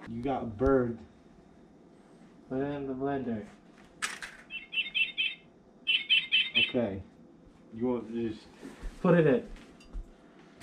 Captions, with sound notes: You got a bird. Put it in the blender. (chirping noises) OK. You want--just-- Put it in.